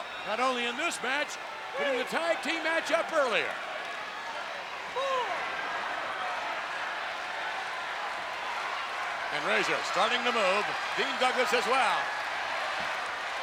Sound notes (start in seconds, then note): 3.7 crowd yelling